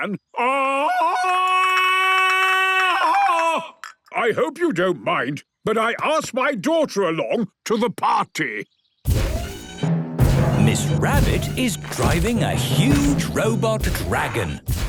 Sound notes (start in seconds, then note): 0.4 Tarzan call; 8.7 thudding, mechanical whirring